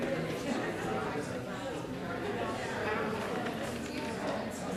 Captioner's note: crowd chattering